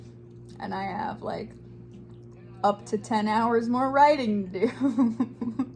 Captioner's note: laughs